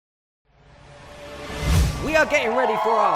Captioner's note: cheering